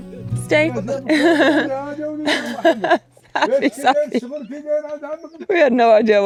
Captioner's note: men chatter; laughs